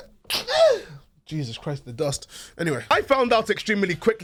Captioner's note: sneezes